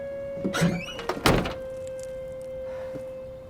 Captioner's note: trunk shuts